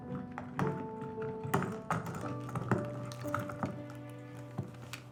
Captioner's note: poignant music; suitcase rumbling